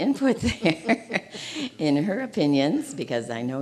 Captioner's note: chuckling